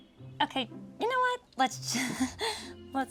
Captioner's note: chuckles